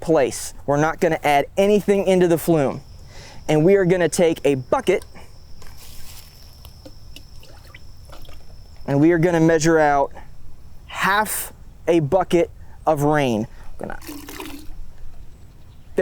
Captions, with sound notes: We're not gonna add anything into the flume. And we are gonna take a bucket (water sloshing) and we are gonna measure out half a bucket of rain. I'm gonna, (water splashing)